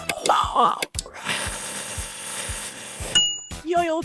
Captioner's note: cranking